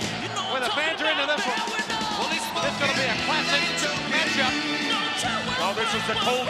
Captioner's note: upbeat music continues; presenter speaking faintly off mic